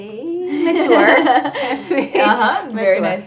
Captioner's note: laughter